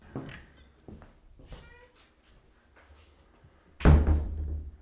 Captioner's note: door opening and closing